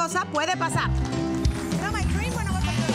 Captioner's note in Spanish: Hablan en inglés